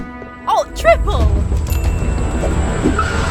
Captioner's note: dramatic music; bell dings; tires screeech